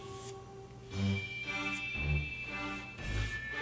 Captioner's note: brushing